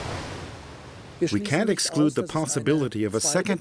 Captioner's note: in German